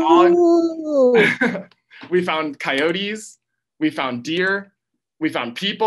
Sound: laughs

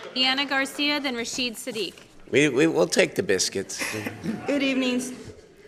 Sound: laughter

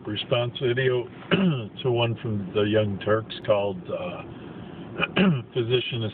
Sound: clearing throat; clearing throat

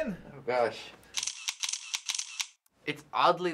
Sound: camera shutter clicking

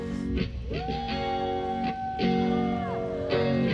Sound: howling

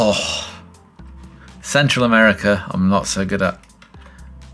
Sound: sighs

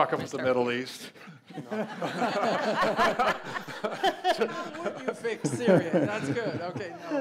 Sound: laughs

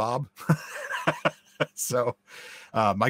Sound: guy laughs

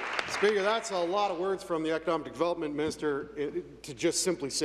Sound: applause

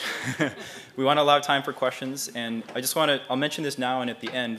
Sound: laugh

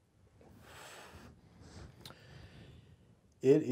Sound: exhales

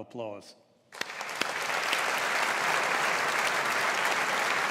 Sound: audience applauds

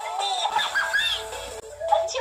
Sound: laughter

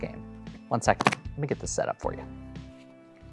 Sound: shuffles cards

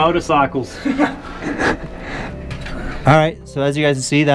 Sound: people chuckling

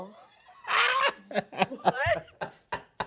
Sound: man laughs

